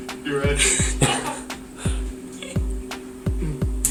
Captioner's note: laughter